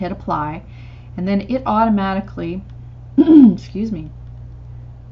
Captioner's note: clears throat